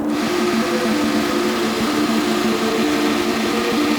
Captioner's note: boat rumbling